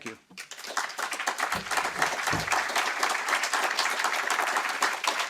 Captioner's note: audience applauding